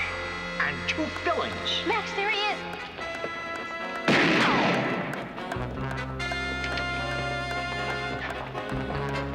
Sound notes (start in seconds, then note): 3.4 tense music; 4.0 gun bangs